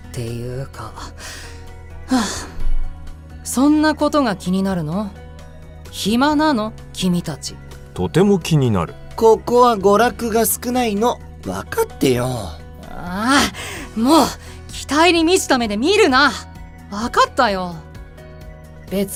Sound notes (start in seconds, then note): 2.1 sigh